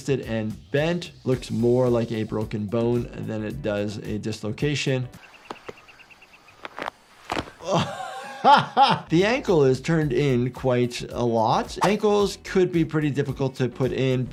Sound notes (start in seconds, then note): 5.1 bird chirping; 6.5 foot crunching; 7.5 laughs